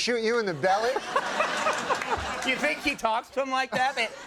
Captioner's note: audience laughing